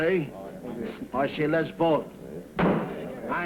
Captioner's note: thud